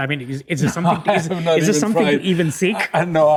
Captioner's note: laughing